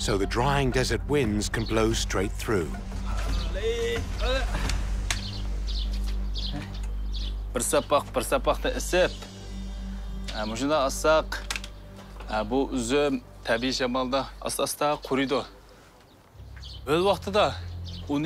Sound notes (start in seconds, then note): 4.5 father straining; 6.4 birds chirping